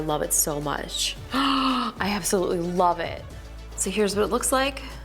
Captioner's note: gasps